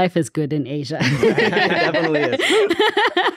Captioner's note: everyone laughing